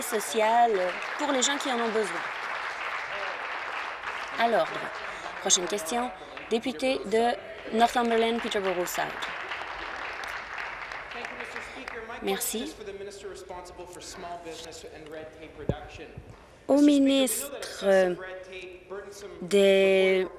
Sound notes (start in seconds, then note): 0.0 applause; 4.7 applause; 11.6 applause